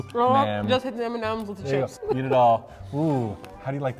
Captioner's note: whimpering noises of some sort